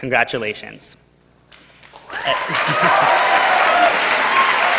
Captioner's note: cheering